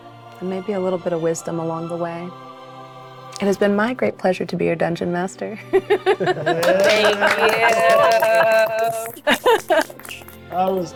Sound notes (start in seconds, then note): 5.8 chuckles; 6.2 players applauding